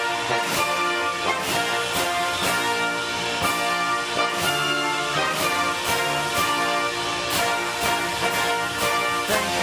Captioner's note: applause